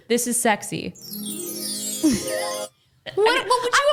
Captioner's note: chiming